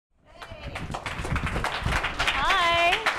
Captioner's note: applause